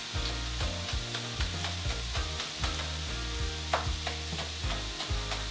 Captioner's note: chopping and light thumping on a cutting board